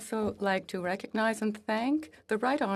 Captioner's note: speaking French